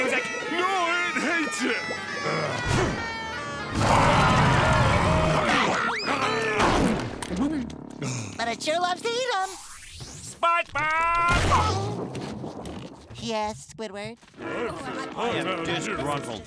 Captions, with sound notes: No, it hates it! [growling] [roaring] But it sure loves to eat ‘em. SpongeBob! Yes, Squidward? I am disgruntled.